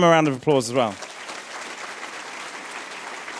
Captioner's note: applause